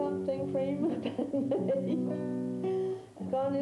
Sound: she laughs

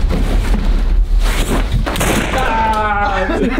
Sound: gun shot

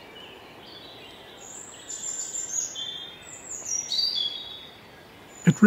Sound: birds singing

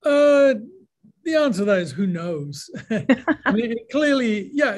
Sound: laughs

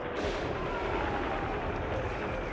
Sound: gun Fire

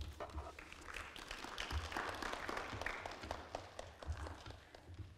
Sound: crowd clapping

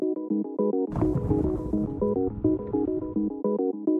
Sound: volcano Rumbling

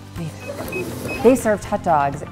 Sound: cash register beeps

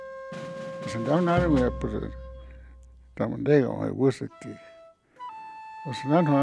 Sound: man speaking in foreign language

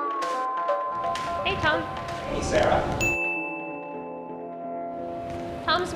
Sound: ding

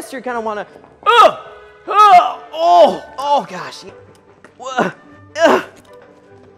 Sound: making grunting noises

